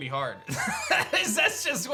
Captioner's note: laughs